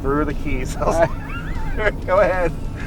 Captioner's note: laughing